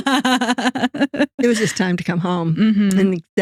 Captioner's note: both Laughing